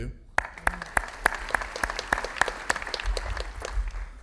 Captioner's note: audience applauding